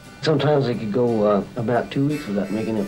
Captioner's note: voiceover